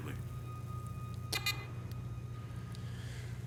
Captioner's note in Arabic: صفير